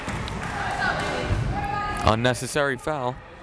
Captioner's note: crowd clapping; crowd members shouting